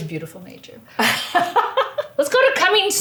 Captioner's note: laughs